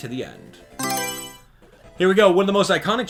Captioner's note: Mario Selection Sound